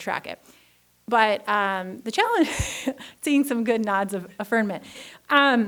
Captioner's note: laughs